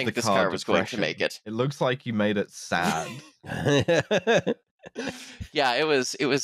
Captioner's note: laughs